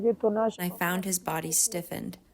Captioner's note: through translator